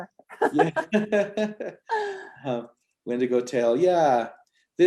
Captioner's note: chuckles